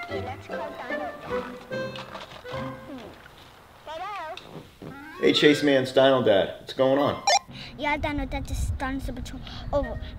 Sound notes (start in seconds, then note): 2.4 comical music; 7.2 beeps